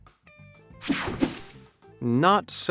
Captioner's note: whooshing sound